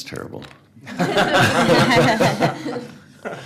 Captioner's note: laughter